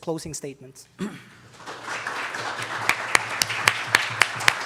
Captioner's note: aupplauding